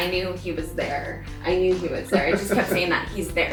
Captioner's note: laughs